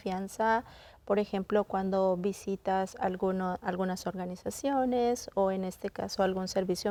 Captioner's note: continues speaking in Spanish